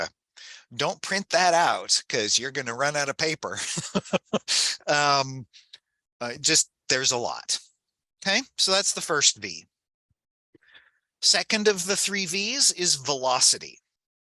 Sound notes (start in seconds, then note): 3.5 laughs